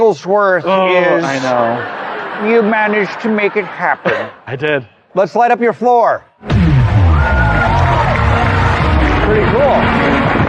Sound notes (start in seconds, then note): 1.6 imitating dr. evil